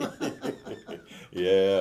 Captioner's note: both laughing